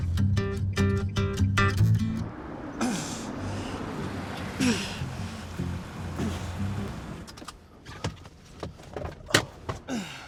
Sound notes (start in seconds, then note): 0.8 upbeat music; 2.7 Mark grunting